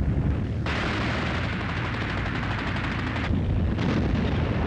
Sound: machine guns firing

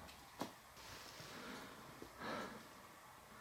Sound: breathing out; inhaling

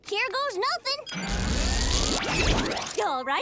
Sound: whirring

